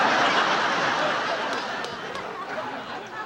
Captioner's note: laughing